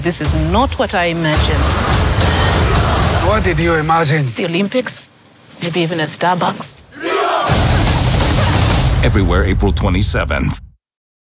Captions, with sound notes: this is not what I imagined. What did you imagine? The Olympics, maybe even a Starbucks. [SHOUTING] Everywhere April 27.